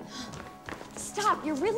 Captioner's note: Eliza gasps softly